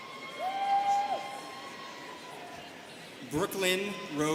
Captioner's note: students cheering